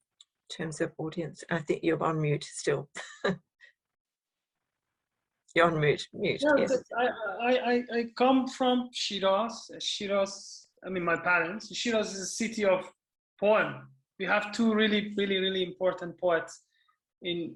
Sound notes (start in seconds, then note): 3.0 chuckling